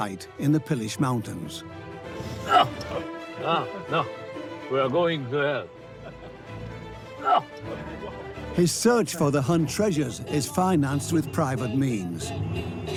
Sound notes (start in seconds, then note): 3.3 laughs and grunts; 7.2 laughs